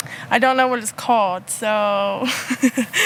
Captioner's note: laughs